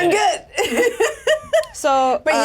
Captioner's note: laughs